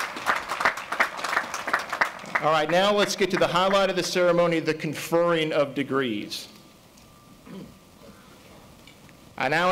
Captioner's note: applause